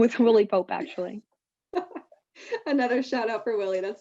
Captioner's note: chuckles